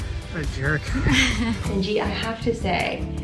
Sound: laughs

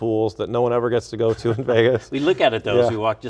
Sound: both laugh

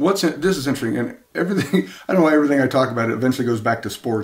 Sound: laughs to self

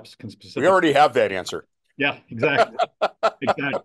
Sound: laughs

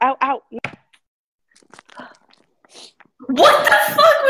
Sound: meat sounds

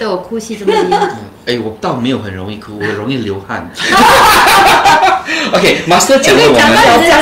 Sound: laughter

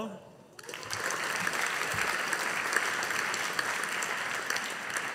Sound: audience applauding

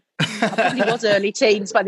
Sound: laughing

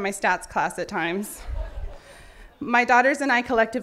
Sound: laughing

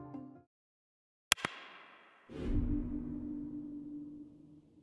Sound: mouse clicking

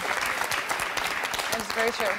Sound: applause

